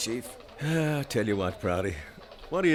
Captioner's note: sighs